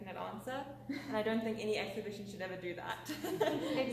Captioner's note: laughs